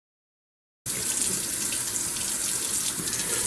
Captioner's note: tap running